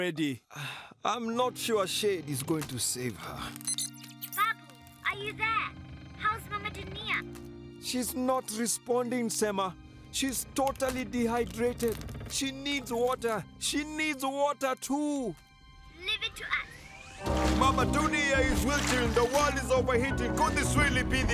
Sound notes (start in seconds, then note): 3.6 beeping